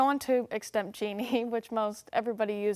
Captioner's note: chuckles